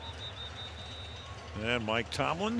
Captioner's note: whistle